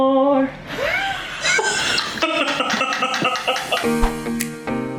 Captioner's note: girls laughs happily; happy music